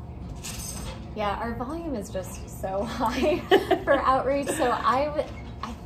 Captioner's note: chuckles